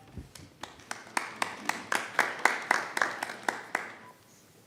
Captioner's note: applause